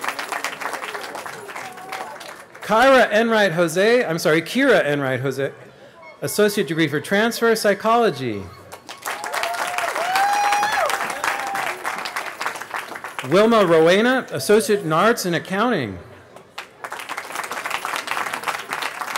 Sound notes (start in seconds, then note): 0.0 cheering; 10.0 cheering; 18.9 applause